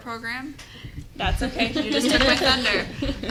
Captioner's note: everyone laughs